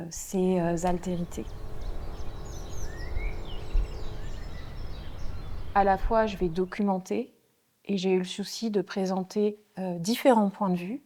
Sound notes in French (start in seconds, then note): 0.2 bruit de moteur; 3.1 bruits d'oiseaux